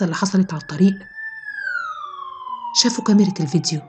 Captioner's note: police car siren